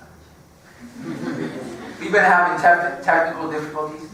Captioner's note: laugh